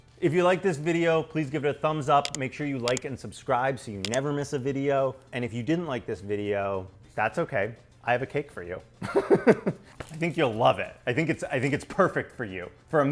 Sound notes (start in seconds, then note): 9.0 laughs